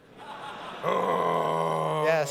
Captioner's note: groans as frost giant